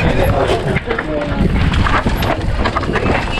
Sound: crowd; crowd

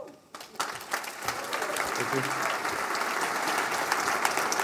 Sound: applause

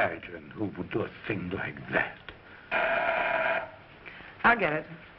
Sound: door bell buzzing

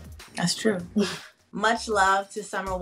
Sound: woman chuckles

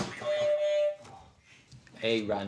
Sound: boing; honk

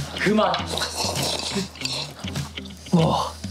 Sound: slurping

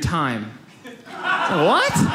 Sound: audience laughs

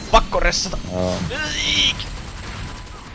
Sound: dying noises

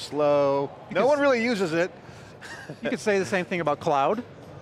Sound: laughs

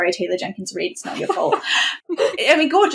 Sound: laughs

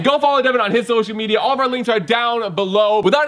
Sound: none

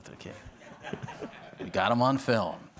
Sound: audience laughing

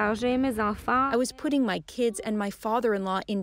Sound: speaking French

